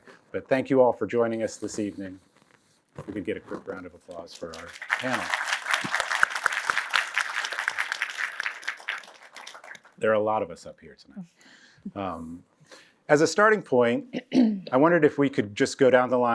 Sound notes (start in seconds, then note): 4.3 applause